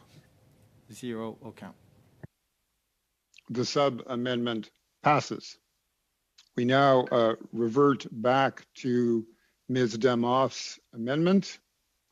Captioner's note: speaking French